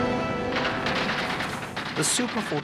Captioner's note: gunshots shooting